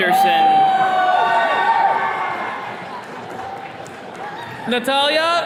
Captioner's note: attendees cheering